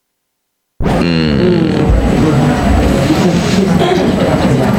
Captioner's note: people mumbling